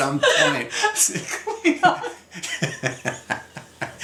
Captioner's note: laughs